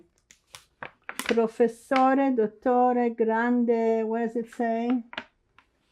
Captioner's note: italian